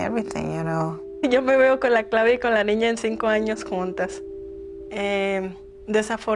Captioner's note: in Spanish